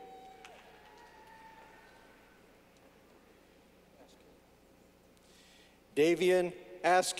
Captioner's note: clapping